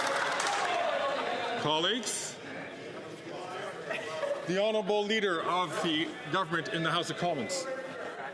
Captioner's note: some Applause